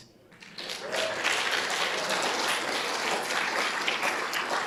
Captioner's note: audience applauding